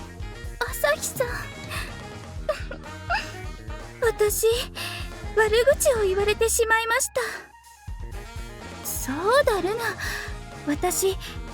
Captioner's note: sniffle